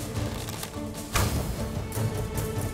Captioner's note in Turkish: Ok fırlatma sesi